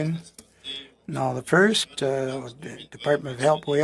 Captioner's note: speaking French